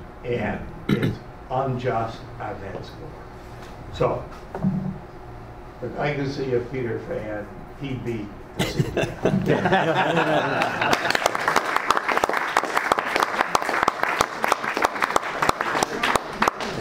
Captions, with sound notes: And it's unjust on that score. So, the legacy of Peter Phan, he beat the CDF. (laughing) (clapping)